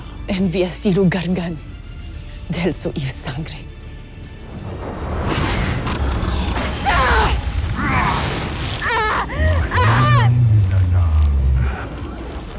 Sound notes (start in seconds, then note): 4.4 elemental whoosh-crackle; 4.5 powerful blast-crackle; 5.9 epic music playing; 7.0 powerful whoosh-crackle; 7.6 growls; 8.8 guttural cry of pain